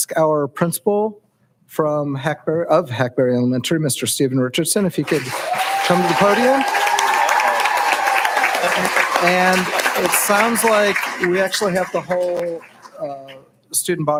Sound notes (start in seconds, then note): 5.0 cheering and applauding